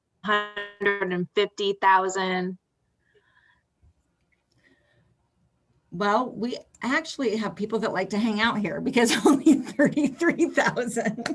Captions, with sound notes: 150,000. Well, we actually have people that like to hang out here because [laughs] only 33,000.